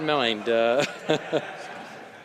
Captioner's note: some applause